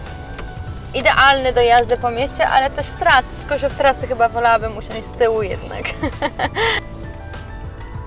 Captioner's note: hehehehe